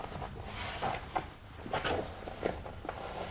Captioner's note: soft creaking